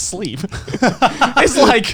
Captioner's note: Garnt laughing